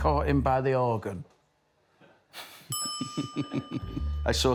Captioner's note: laughter